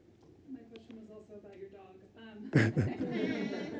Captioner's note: laughs